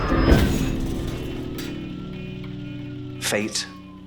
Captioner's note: car crashes